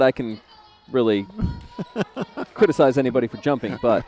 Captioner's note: laughter